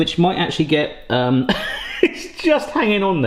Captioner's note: laughs